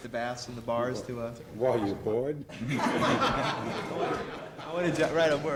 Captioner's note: laughing